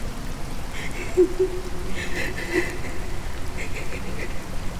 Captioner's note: woman crying